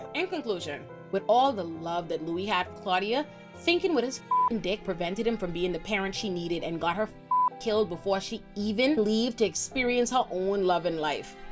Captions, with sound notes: In conclusion, with all the love that Louie had for Claudia, thinking what his (beep) dick prevented him from being the parent she needed and got her (beep) killed before she even leave to experience her own loving life.